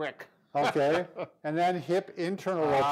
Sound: laughs

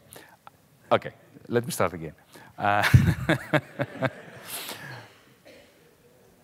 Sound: shares a laugh with audience

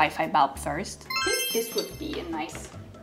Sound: bright chime

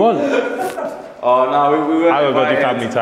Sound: laughing

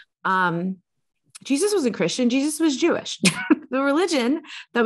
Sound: chuckles

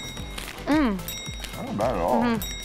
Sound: bell dings

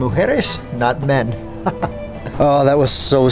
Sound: chuckles

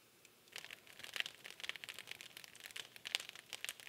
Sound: fire crackling

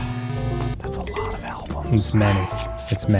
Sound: whispering

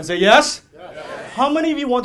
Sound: audience shouting "yes"

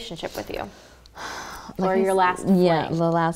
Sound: sighs

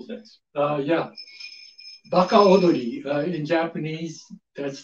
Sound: speaks Japanese

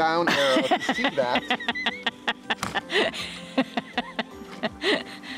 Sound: woman laughs

